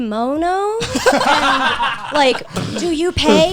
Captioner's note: guys laughing